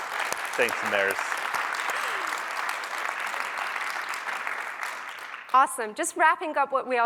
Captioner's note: applause